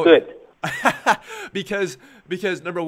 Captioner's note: laughs